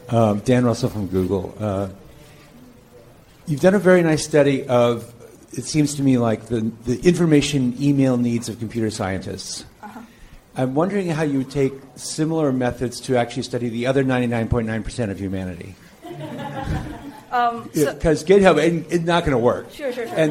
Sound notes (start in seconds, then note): 16.1 woman laughs